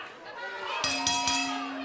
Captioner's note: bell ringing